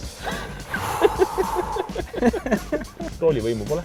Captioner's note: both laugh